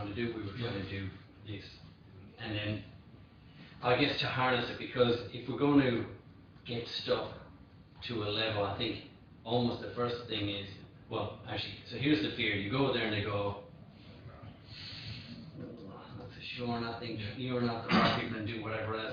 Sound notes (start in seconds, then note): 14.8 sucks air through teeth; 17.8 throat clears